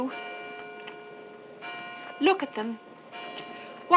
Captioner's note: tolling continues